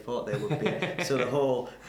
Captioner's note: laughs